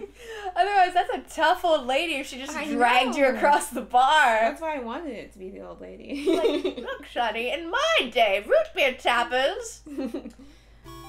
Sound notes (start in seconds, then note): 6.8 old lady voice